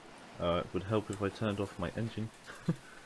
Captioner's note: laugh